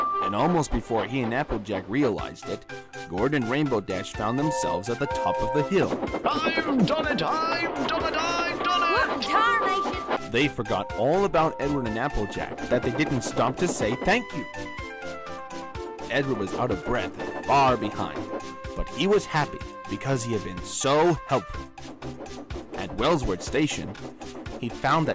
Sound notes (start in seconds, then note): 6.5 excited; 7.9 surprised